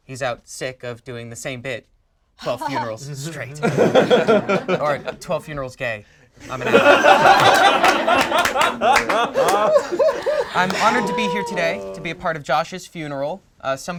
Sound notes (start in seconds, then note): 6.4 group laughs